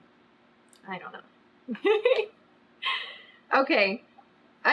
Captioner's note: laughs